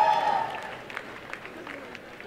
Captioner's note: applause and cheering